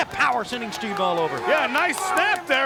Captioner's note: claps